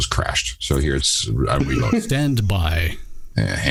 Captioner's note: laughter